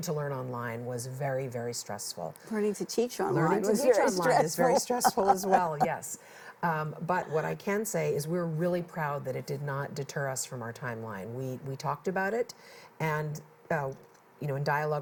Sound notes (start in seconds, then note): 5.6 laughs